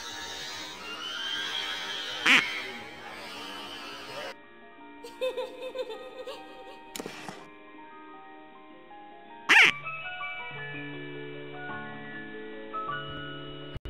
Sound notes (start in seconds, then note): 2.1 quack; 9.5 quack